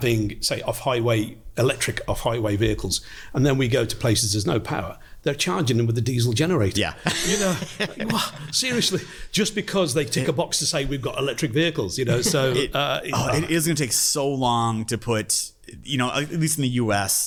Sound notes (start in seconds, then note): 7.0 laughs